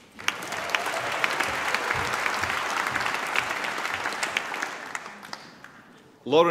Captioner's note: applause